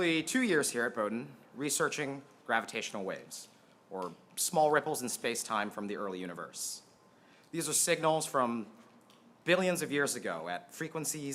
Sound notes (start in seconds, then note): none